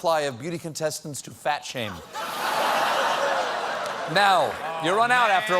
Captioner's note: laughter